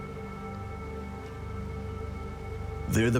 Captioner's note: gentle dramatic music; birds chirping